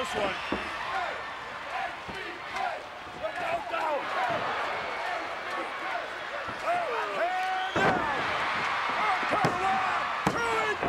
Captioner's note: applause